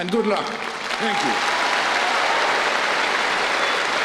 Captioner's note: applause